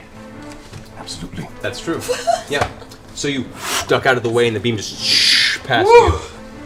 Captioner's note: shhh